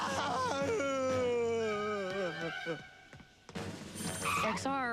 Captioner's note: wailing